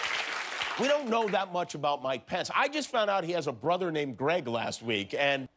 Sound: laughter and applause

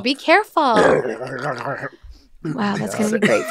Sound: gurgling

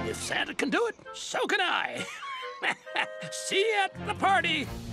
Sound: chuckles

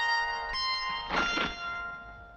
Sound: bag thuds

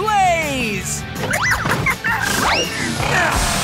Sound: squeaking

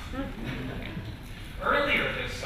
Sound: laughter

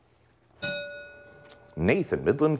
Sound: bell rings

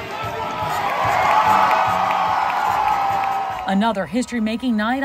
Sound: audience cheers

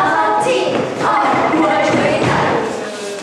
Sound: hahaha

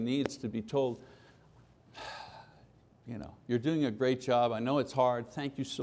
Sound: heavy sigh

